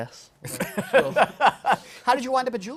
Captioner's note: laughter